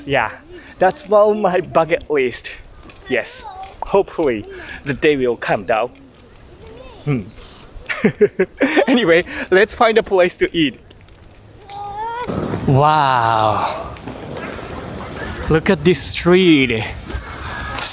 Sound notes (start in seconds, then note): 7.6 chuckles